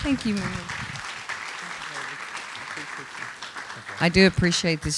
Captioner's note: applause